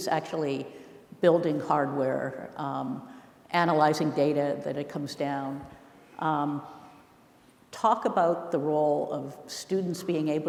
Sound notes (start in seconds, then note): none